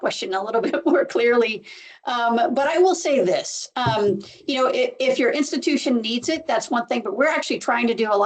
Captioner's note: laughs